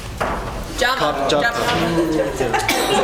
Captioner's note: laugh